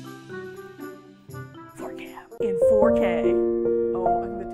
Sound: mischievous music; whispers; dramatic music

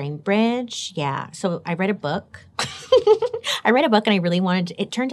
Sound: giggles

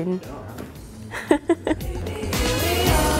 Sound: laughs

